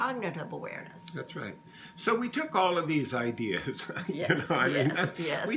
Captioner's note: laughs